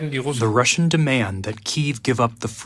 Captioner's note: through translator